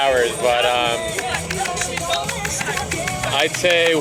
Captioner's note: clock ticking